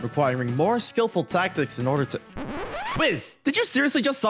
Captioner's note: record scratch